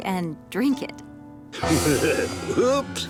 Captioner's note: laughing